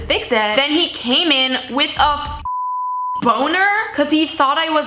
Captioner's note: beep